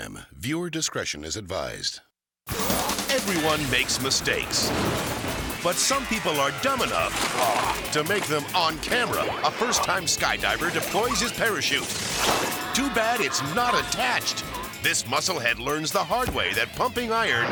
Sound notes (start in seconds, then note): 2.5 upbeat music; 5.0 silo crashing; 7.1 ATV crashing; 12.0 parachute whooshes